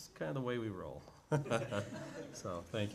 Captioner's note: chuckles